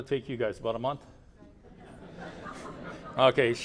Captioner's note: laughter